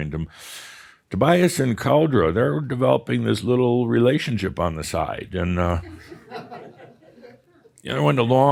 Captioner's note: some chuckles